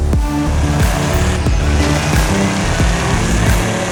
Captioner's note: motore accellerando